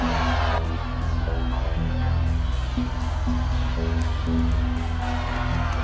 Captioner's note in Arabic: صراخ; يستمر الصراخ